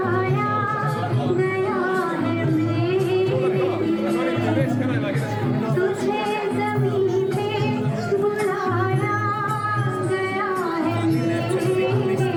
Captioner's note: children chattering; upbeat music